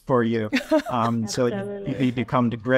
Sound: chuckles

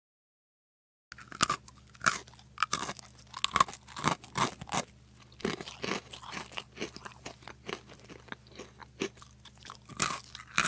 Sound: sound of munching

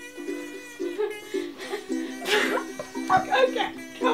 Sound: more groaning and giggling

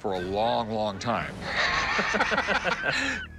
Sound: laughter

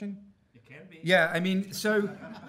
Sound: voiceover; audience laughing

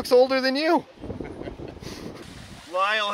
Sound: laughs

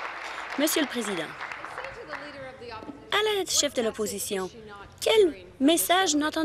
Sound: applause

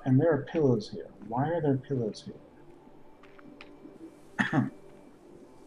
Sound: coughs

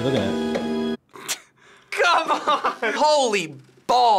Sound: chuckles

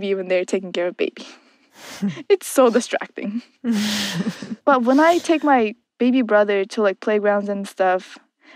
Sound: laughs; laughs

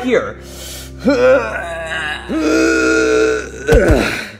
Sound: Mario grunting

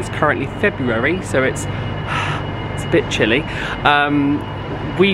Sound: breaths heavily

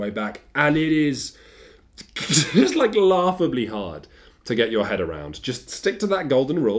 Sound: laughs

